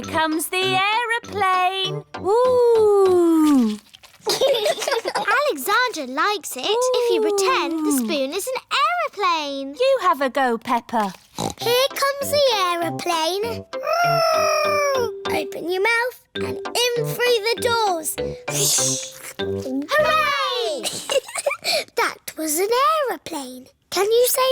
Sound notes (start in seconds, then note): 4.2 laughter; 11.3 snorts; 14.1 imitating aeroplane; 20.7 giggles